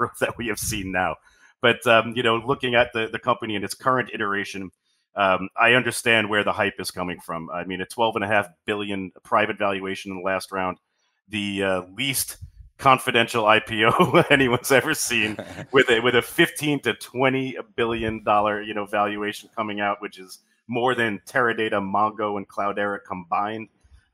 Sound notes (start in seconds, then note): 13.8 laughs